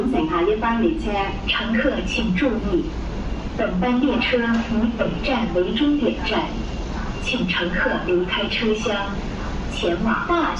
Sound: Mandarin

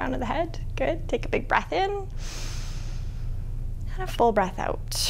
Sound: deep inhaling; deep exhaling

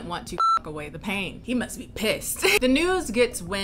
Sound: laughs

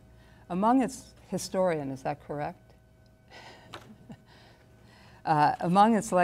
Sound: chuckles

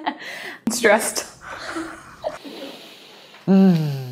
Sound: laughs

